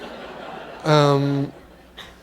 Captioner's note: laughter